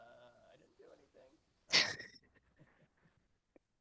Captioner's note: laughing